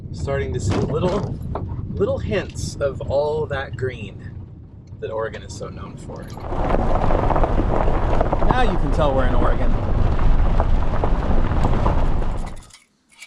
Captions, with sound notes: Starting to see little hints of all that green that Oregon is so known for. Now you can tell we're in Oregon. (thunder rumbling)